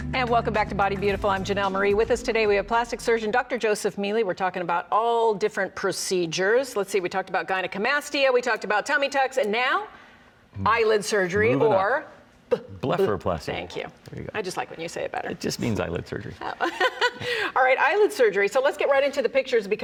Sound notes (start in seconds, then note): 16.4 chuckles